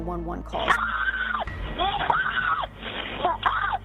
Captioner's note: screaming